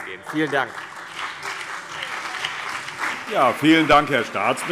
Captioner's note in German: Beifall CDU und BÜNDNIS 90/DIE GRÜNEN